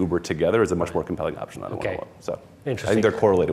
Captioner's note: faintly speaking